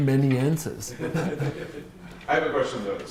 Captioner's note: laughter